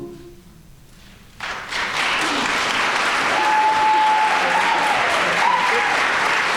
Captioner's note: audience cheering and applauding